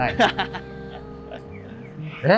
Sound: laughing

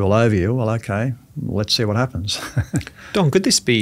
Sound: laughing

